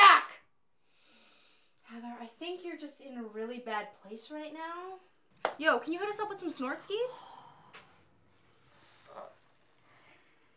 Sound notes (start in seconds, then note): 0.8 deep breathe